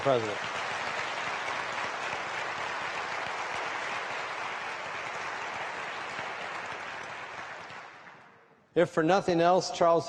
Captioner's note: applause